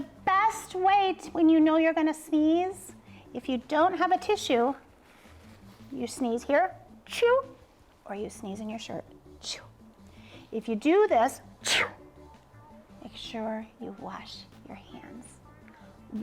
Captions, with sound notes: The best way, when you know you're gonna sneeze, If you don't have a tissue, You sneeze here. Choo. Or you sneeze in your shirt. Choo. If you do this, [sneeze] make sure you wash your hands.